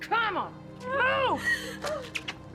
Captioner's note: sobbing